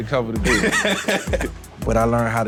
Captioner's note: laughing